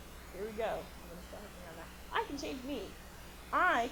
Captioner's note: buzzing drowns out speaker